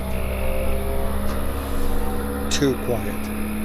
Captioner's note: motor revving; distant motor revving